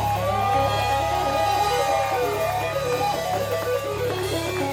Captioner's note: audience cheering